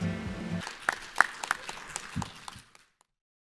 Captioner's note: clapping